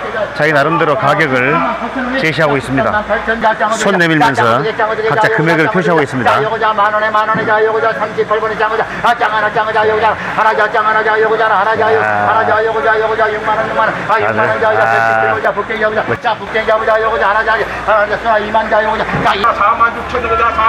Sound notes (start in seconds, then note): 7.5 laughter